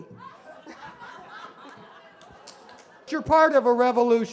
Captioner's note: laughing